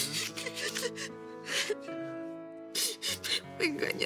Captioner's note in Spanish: Sollozos